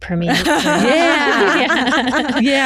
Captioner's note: laughing